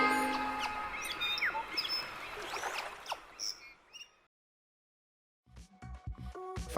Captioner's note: birds chirping; water splashing